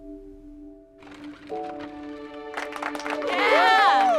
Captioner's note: applauding